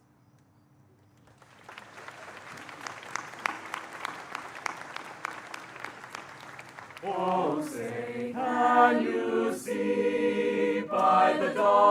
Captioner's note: applause